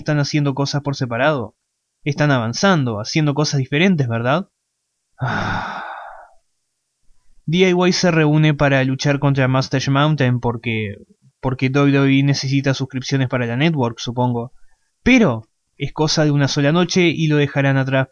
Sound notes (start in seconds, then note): 5.2 sighs